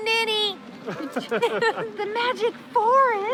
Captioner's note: laughing